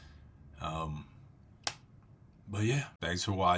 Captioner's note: clap